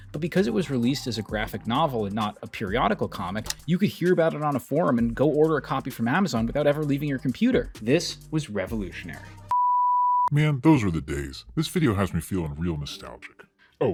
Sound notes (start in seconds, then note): 9.5 beep